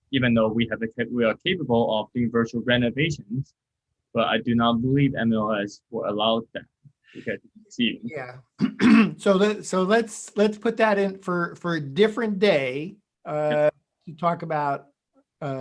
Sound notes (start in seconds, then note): 8.6 clears throat